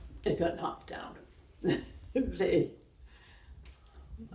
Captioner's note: laughing